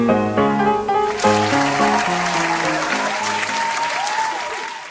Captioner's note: clapping and cheering